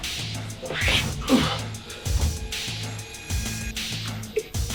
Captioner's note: groaning